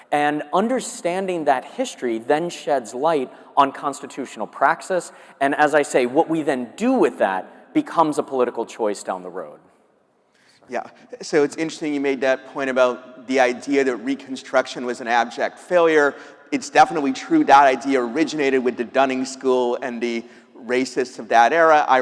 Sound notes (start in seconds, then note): none